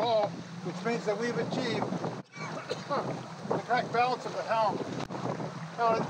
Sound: coughs

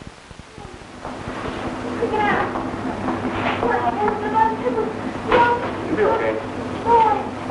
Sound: agitated young woman on a hospital stretcher, babbling incoherently

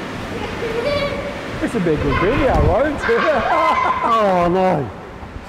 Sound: children laughing

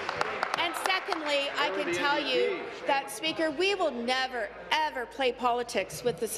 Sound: applause

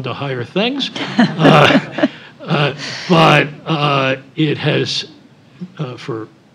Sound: laugh

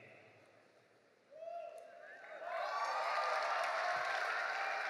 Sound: audience cheering

